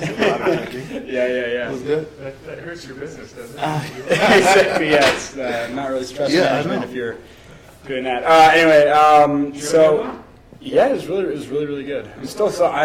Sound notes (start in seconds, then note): 3.5 laughs